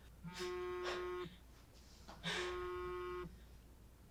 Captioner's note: phone buzzing